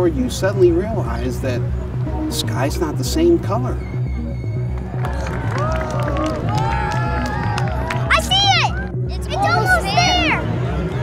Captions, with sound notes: you suddenly realize that the sky's not the same color. (people cheering) - I see it! It's almost there.